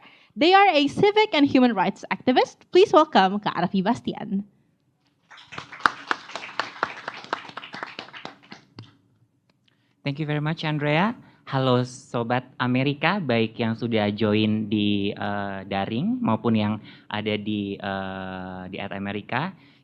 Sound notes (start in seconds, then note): 5.2 clapping noises